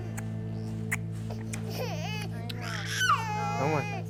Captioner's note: baby crying